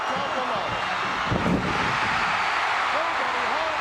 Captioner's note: audience cheering